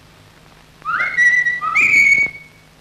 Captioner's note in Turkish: Islık sesi